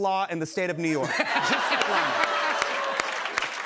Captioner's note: laughter